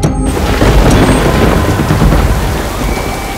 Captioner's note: Clouds thundering